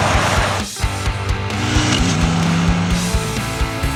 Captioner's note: motorcycle revving over music